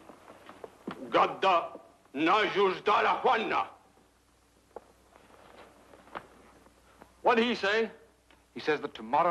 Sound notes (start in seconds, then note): 1.6 priest speaks foreign language